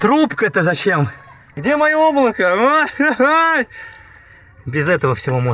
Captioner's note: yells